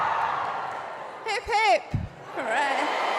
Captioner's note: applause